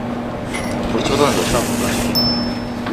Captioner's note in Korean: 라면 먹는 소리